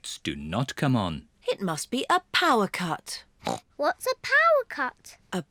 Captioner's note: grunts